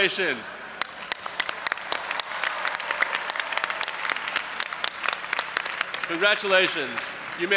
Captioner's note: audience applauding and cheering